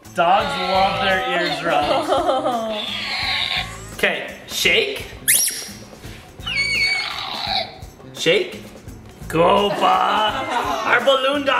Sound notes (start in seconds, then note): 3.5 laughter; 5.2 balloon sounds; 9.7 laughter